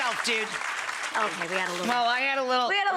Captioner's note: audience applauding